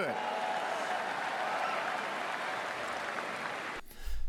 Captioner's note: crowd cheers